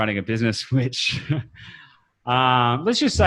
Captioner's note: laughs